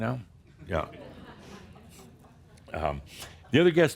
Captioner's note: a few chuckles, as he takes a drink of coffee